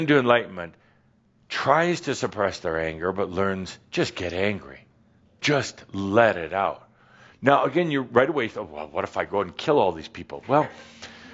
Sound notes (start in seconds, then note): none